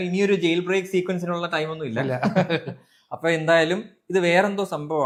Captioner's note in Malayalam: പൊട്ടിച്ചിരി